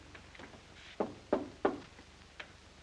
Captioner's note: knocking on door